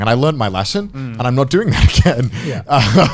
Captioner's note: laughing